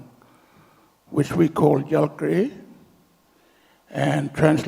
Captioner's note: speaks native language